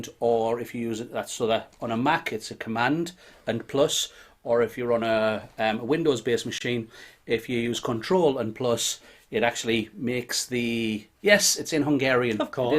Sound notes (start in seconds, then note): none